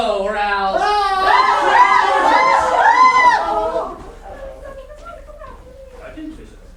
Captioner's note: sailors screaming